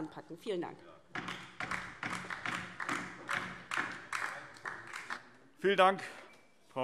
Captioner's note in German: Beifall DIE LINKE